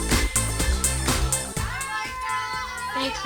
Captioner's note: cheering